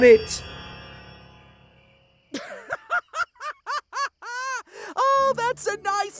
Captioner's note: james laughs loudly